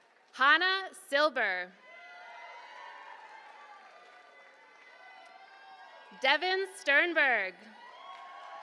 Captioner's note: applause